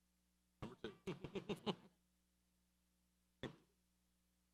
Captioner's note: man laughs